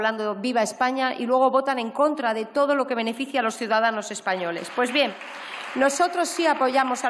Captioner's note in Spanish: Aplausos